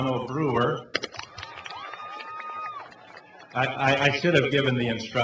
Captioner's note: cheering and clapping